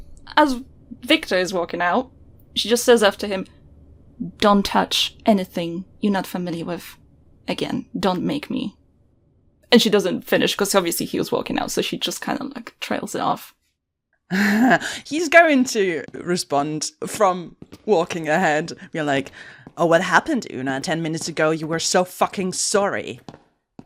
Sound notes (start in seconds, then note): 13.7 footsteps begin; 14.4 laughs